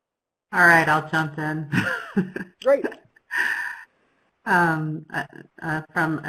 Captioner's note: laughs